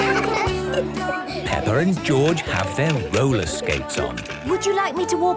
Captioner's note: laughter; giggling